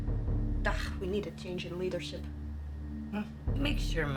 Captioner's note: suspenseful music; scoffs